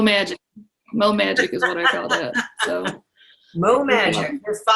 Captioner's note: laughs